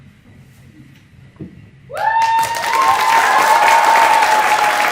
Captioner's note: applause